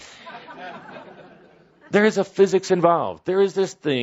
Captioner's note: laughter